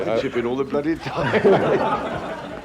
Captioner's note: journalists laughing; laughs